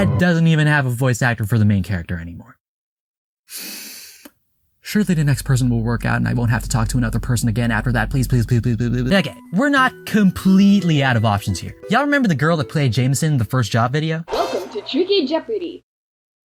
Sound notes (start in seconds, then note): 3.5 deep inhale